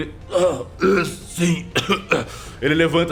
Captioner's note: coughing